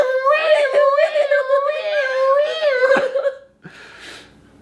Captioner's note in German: macht komische Geräusche